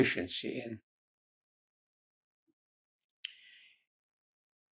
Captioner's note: pauses 6 seconds